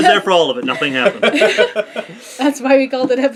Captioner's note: laugh